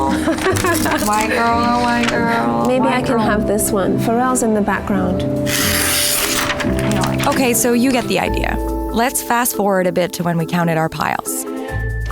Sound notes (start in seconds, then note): 0.0 laughing; 5.4 ripping